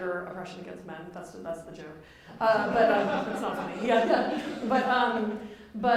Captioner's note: laughter